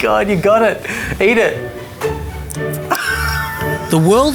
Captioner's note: laughs